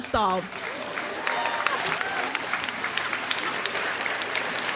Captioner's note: crowd applauds